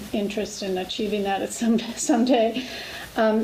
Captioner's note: laughs